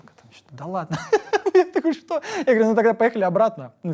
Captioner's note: laughs